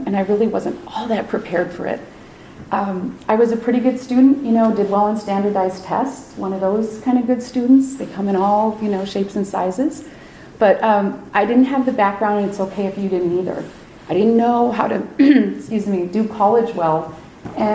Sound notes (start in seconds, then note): 15.2 clears throat